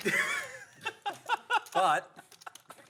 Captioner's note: laughter